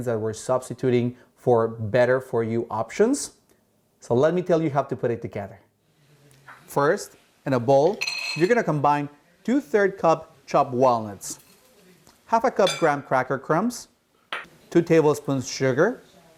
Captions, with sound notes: that we're substituting for better-for-you options. So let me tell you how to put it together. -First, in a bowl, -(walnuts banging) you're gonna combine 2/3 cup chopped walnuts. 1/2 cup graham cracker crumbs. Two tablespoons sugar.